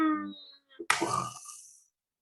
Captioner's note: falling noise; crashing noise